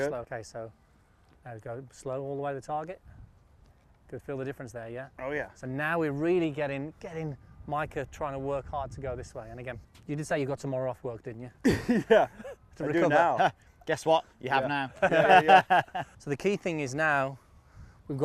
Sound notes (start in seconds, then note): 11.6 chuckles softly; 14.8 chuckles